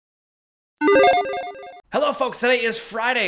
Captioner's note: logo beeps